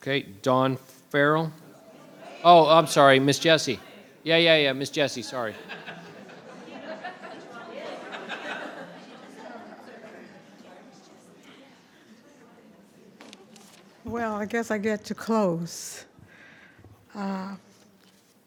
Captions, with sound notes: Okay. Dawn Farrell. Oh, I'm sorry. Miss Jesse. Yeah, yeah, yeah. Miss Jesse. Sorry. (audience laughing) (crowd talking) - Well, I guess I get to close.